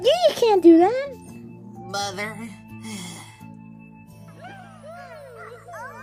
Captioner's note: Komajiro sighs